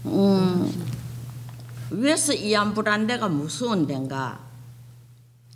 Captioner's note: speaking foreign language